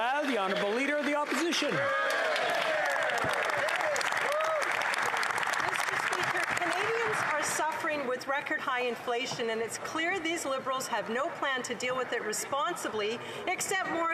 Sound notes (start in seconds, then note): 0.6 applause; 2.9 speaking French; 4.6 applause